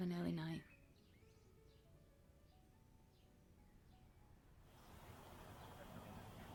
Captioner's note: soft piano music continues; birds continue chirping